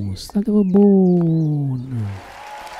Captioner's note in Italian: Applauso